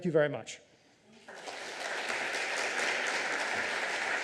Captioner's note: applause